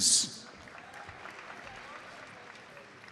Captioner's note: audience applauds